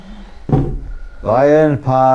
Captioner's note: head thuds